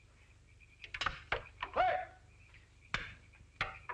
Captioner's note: tap